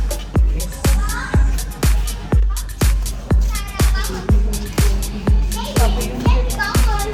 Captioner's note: foreign